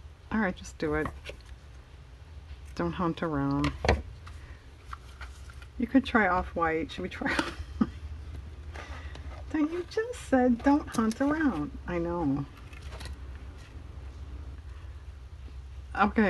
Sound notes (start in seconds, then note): 8.6 laughs